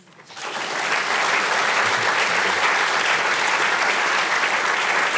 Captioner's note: audience applauding